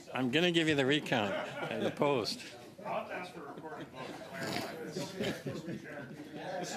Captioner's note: laughter